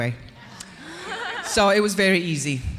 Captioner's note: audience laughing